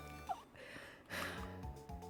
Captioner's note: sigh